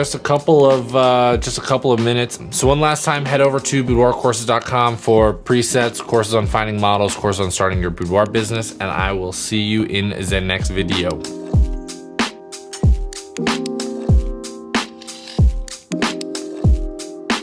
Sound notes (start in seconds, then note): 11.6 clicking; 11.6 lofi hip hop